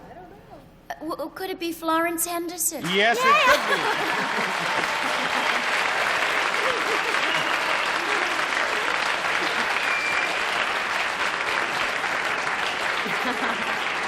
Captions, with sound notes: Uh-- - I don't know. - Could it be Florence Henderson? - Yes, it could be. [laughter, applause]